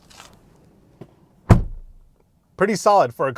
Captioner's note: door closing